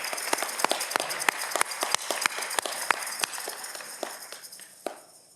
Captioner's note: audience clapping